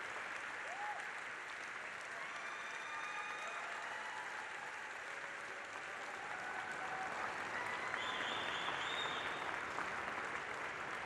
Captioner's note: applause